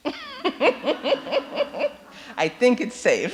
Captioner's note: laughs